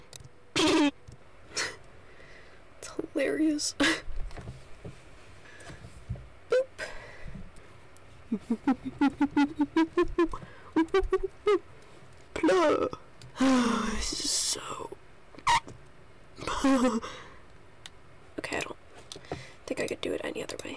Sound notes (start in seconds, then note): 3.1 laughter